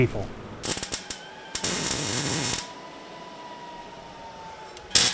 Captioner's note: tools humming